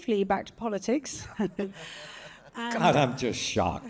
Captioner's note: chuckles; Jeffrey and Sujay laughing